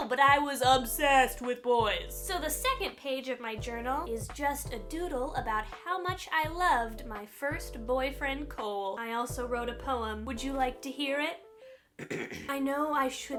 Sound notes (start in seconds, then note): 12.0 clears throat; 12.4 reading from entry with overdramatic, emotional voice